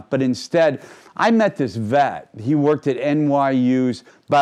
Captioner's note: none